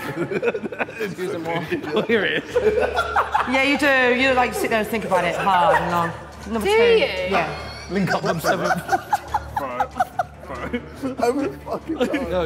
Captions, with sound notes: (Sidemen laughing and giggling) - Yeah, you do. You look like you sit there and think about it hard and long. Number two. - Do you? (Sidemen laughing)